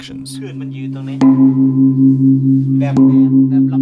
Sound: gong sounds

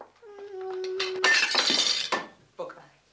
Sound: jug breaks

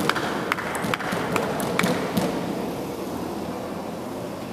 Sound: applause

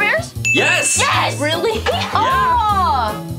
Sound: bell dings

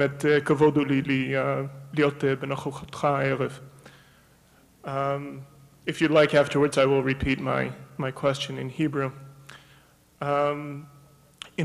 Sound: foreign words

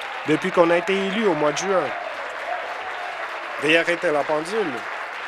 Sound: applause

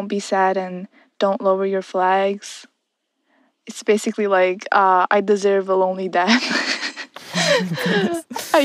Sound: laughs

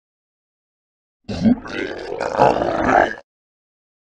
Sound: sound of hell pig

